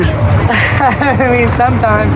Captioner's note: lauaughghs